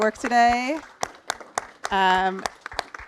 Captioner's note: applause